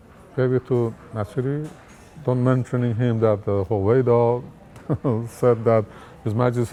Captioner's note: laughs